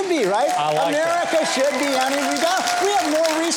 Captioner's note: audience cheers